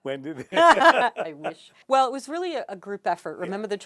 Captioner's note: laughs